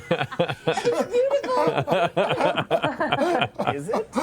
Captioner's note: laughing; laughs